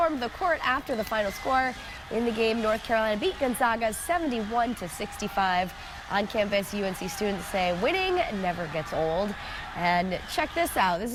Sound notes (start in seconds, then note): 1.0 cheers and applause